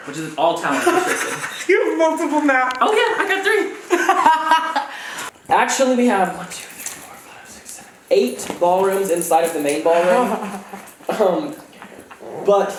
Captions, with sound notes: Which is all talent restricted. - You have multiple maps. - Oh yeah, I got three. (laughs) Actually we have one, two, three, four, five, six, seven, eight ballrooms inside of the main ballroom. (laughs)